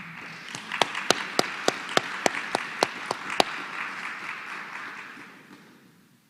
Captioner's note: applause